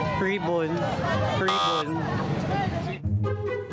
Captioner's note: chuckles